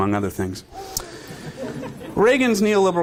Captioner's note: audience chuckling